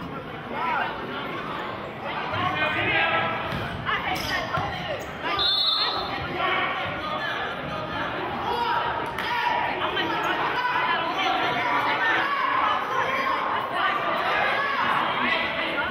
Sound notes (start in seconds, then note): 5.3 whistling; 7.8 yelling